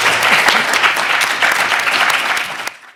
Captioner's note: attendees clapping